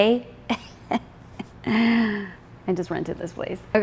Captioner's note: chuckles